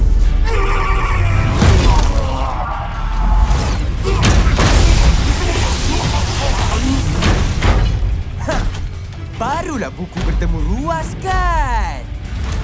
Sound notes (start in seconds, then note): 0.7 Kubiko groans; 3.9 groaning